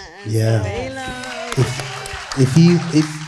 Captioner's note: crowd applauding